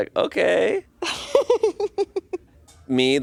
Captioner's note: laughs